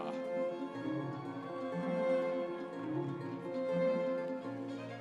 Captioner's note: audience cheering